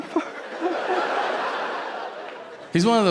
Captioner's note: audience laughing